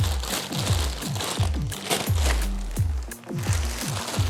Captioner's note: plastic crumpling